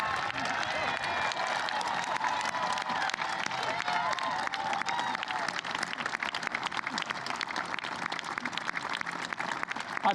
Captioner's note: applause